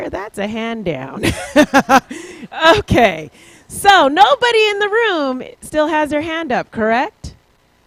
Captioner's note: laughs